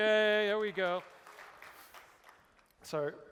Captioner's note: applause